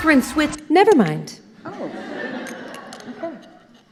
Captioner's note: audience laughing